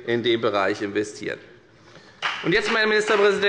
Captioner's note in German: Beifall bei der FDP